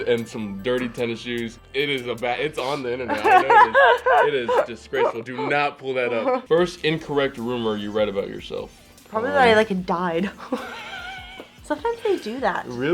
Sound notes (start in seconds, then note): 3.1 Elle laughs; 10.3 Justice laughs; 10.3 laughs